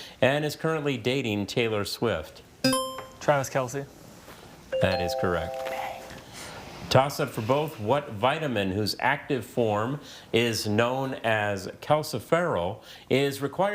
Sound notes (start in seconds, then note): 4.7 text chiming; 4.8 buzzer chiming